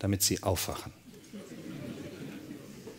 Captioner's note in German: Lachen